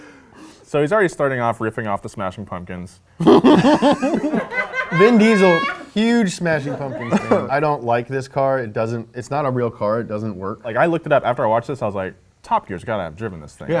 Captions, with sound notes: - So he's already starting off riffing off the smashing pumpkins (woman laughs loudly) - Vin Diesel, huge smashing pumpkins. I don't like this car. It doesn't... It's not a real car, it doesn't work. - Like I looked it up after I watched this, I was like, Top Gear has got to have driven this thing